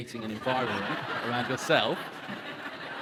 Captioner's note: audience laughs